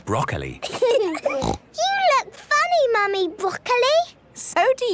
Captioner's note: laughing, snort